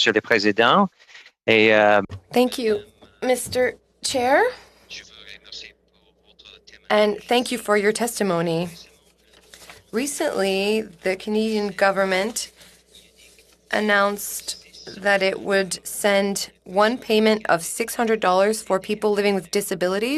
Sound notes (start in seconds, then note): 4.5 speaking French